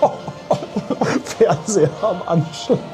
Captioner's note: laughs